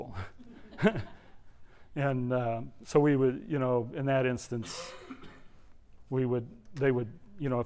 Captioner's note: laugh